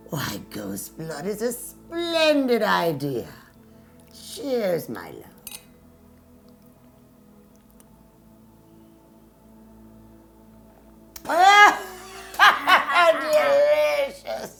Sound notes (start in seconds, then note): 5.4 glass clinking; 11.2 laughing